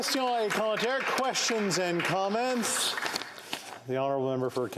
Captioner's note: some Applause